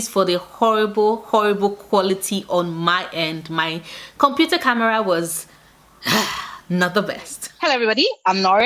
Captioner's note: sigh